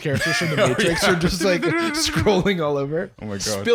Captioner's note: trilling